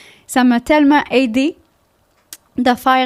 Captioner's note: in french